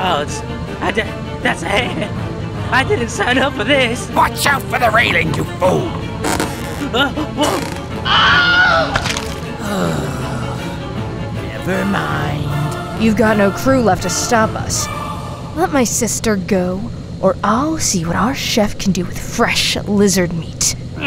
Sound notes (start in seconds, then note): 7.4 wood creak, wilhelm scream; 9.6 sigh